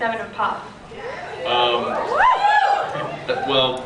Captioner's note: scattered cheers